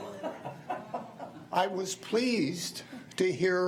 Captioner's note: laughs